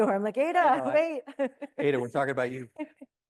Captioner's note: laughs